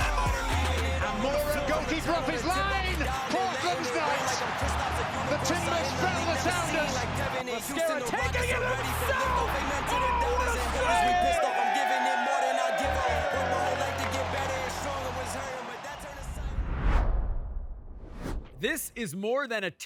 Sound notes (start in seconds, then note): 3.6 crowd cheers and applauds; 6.3 hip hop music; 10.4 team cheering; 12.5 hip hop music; 16.2 logo whooshing